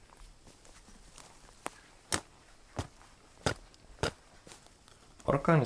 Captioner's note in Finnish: tömähdyksiä